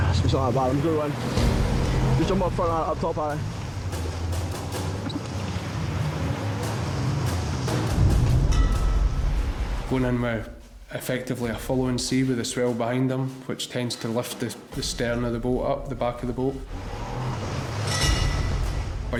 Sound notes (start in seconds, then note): 3.5 dramatic music; 5.6 boat engine revving; 17.3 dramatic music